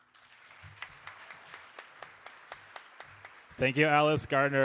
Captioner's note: audience applauding